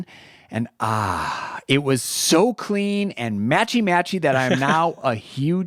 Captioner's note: sighs